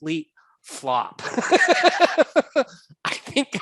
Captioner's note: laughing